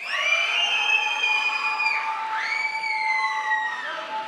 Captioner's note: crowd applauds